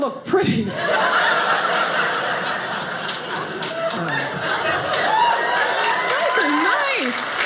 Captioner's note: audience cheers